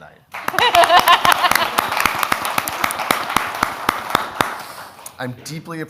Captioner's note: audience applauds; laughs